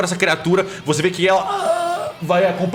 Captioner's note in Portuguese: grunhidos